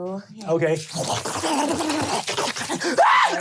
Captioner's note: snarling sounds; screaming